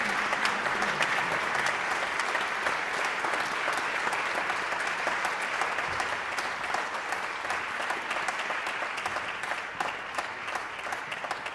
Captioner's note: applause